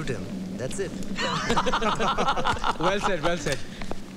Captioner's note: Laughs